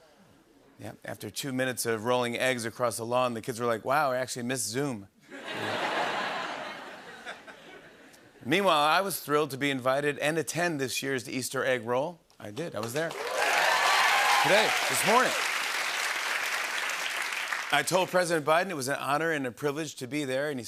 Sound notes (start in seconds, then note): 5.3 laughter; 13.0 cheers and applause